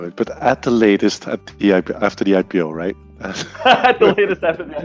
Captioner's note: both laughing